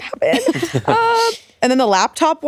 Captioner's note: chuckling